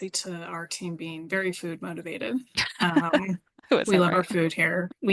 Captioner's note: laughing